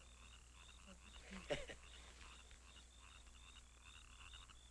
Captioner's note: frogs croaking